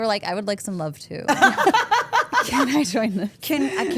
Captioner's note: Steph laughs